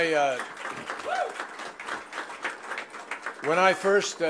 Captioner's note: applause